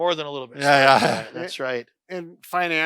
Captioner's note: laughs